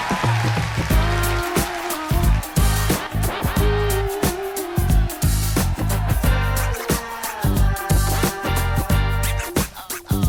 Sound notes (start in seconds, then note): 1.7 applause